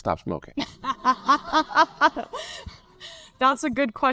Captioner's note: laughs